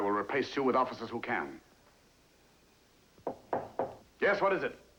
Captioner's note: Knocking